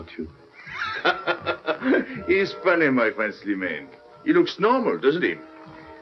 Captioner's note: laughing